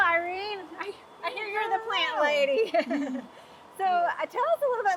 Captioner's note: chuckling